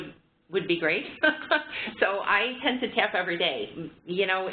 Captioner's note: laughter